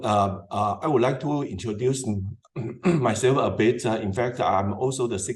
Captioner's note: cough